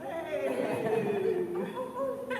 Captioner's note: laughter